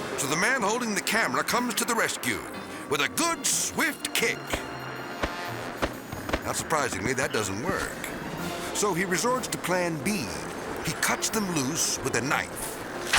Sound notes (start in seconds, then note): 0.0 whimsical music; 4.9 whimsical music continues; 5.1 foot tapping